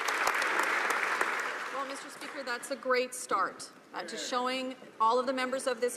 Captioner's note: some Applause